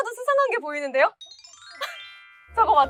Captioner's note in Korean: 반짝이는 효과음